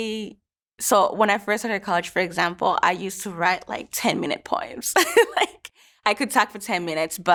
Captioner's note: laughs